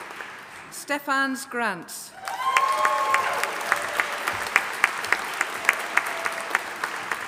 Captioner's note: audience applauding